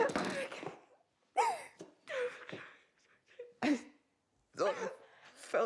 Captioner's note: both crying